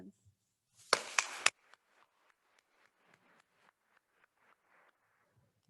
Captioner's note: attendees applauding